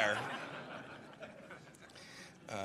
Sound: laughter

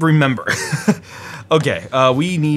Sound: laughs

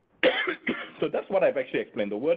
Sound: coughing

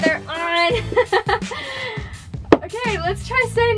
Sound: laughter

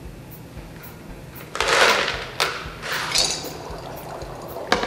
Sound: bubbling; ice clatters

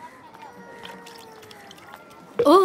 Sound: baby crying

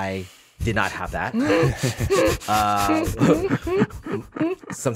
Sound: laughs

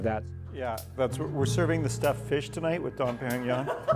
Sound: laughter

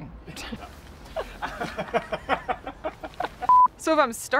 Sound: laughs

